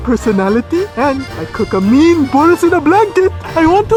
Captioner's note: voice muffled